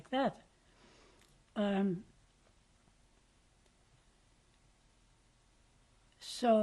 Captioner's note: pauses for 6 seconds